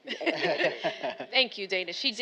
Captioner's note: all laughing